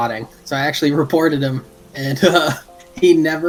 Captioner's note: laughs